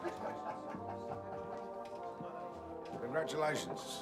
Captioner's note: laughter